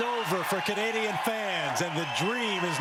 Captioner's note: cheers and Applause